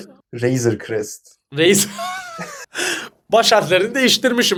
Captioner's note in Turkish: kahkaha